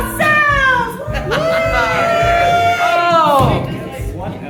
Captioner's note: cheer